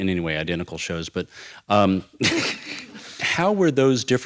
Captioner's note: laughs